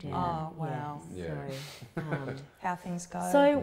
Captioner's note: chuckles